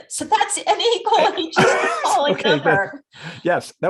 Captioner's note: laughs